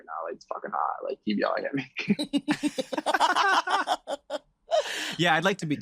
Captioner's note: laugh